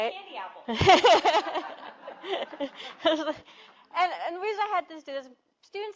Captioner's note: laughter